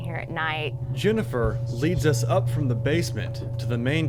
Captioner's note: voiceover